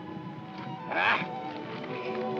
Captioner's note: Mac grumbles; sentimental music